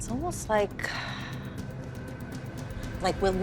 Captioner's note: sighs